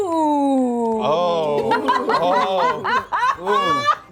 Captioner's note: laughs